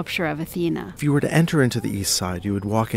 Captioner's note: voiceover